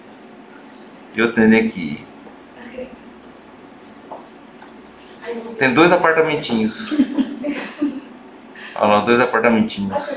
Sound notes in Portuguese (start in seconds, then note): 6.7 risos